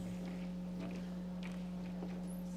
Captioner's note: none